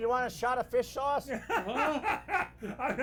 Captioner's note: laughing